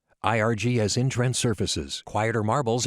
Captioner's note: electronic Male Voiceover